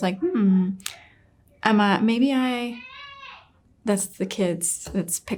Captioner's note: kids making noise in background